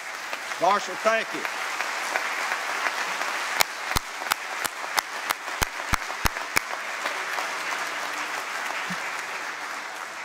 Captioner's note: applause